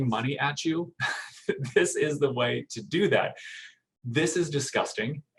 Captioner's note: chuckling